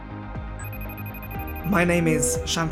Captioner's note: phone rings